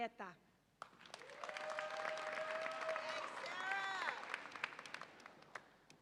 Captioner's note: audience applauds and cheers